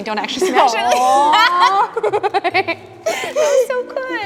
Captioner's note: both laughing